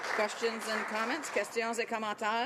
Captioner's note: some Applause